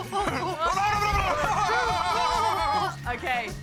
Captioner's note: both grunt